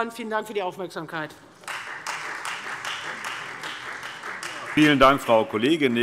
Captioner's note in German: Beifall Freie Demokraten